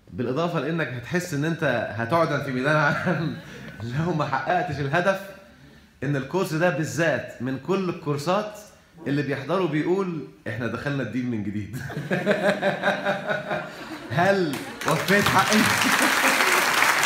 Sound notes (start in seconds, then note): 14.5 clapping!